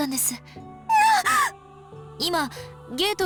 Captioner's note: horrified gasp